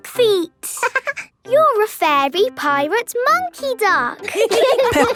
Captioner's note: quacking; laughing; laughter